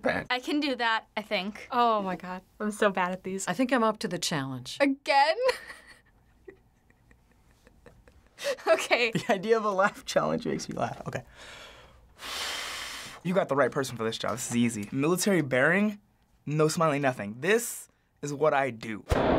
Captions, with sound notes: I can do that, I think. Oh my god. I'm so bad at these. I think I'm up to the challenge. Again? (chuckles) Okay. (laughing) The idea of a laugh challenge makes me laugh. Okay. (deep breath) You've got the right person for this job. This is easy. Military bearing? No smiling, nothing. This is what I do.